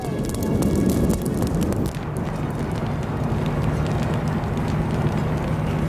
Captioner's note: fire roaring and crackling